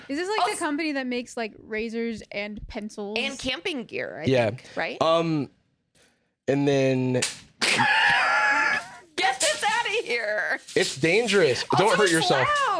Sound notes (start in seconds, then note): 7.6 laughs